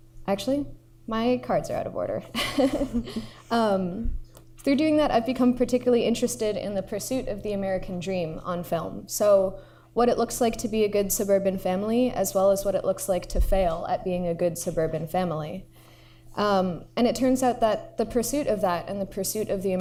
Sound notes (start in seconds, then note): 2.4 laughs